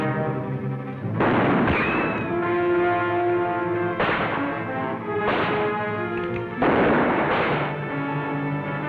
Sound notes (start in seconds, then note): 1.1 gunfire